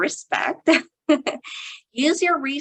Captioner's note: chuckling